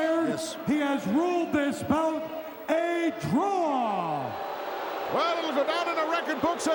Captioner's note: crowed booting